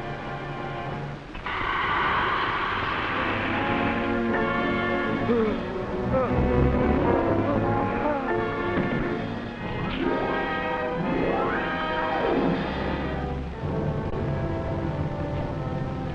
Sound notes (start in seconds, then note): 1.4 hissing; 3.2 tense music; 5.3 gasping; 9.9 dramatic music